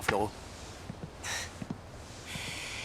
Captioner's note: scoffs